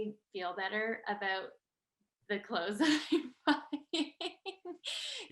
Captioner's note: laughs